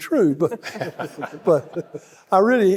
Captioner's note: panelists laughing; audience laughing